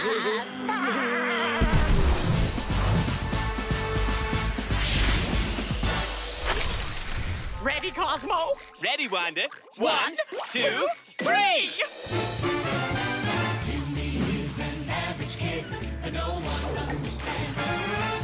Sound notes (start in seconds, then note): 0.0 laughing